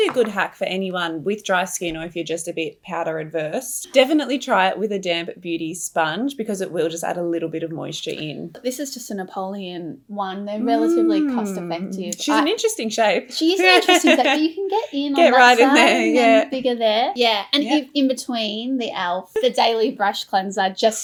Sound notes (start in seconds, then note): 13.6 laughs